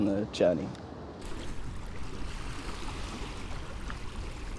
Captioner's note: water flowing